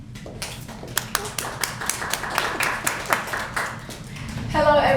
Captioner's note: applause